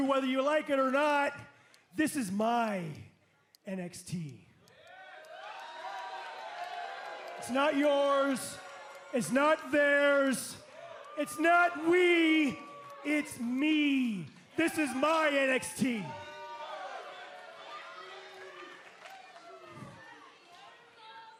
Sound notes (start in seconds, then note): 5.8 cheers and applause